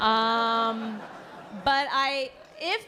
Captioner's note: laughter